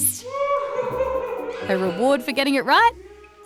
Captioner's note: cheers